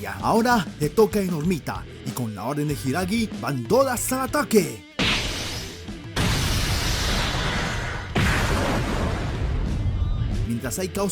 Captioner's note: sound of fighting